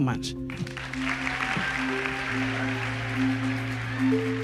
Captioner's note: applause